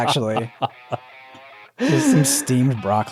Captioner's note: laughing